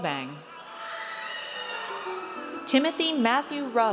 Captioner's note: audience cheers